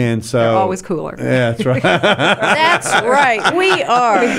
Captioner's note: laughing